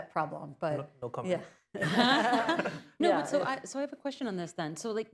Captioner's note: laughter